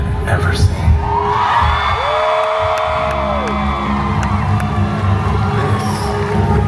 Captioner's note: guests cheer and clap; tensed music